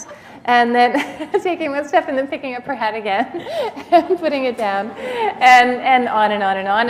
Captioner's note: laughter